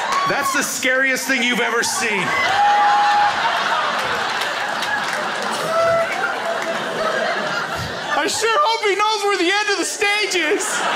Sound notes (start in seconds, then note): 2.6 crowd laughs